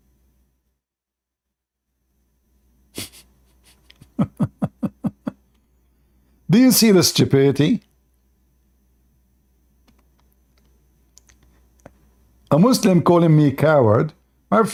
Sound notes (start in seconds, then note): 3.5 Ketawa